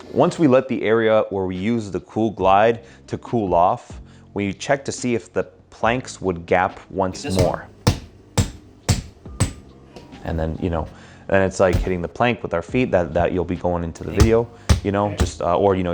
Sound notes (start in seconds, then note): 7.2 foot stomping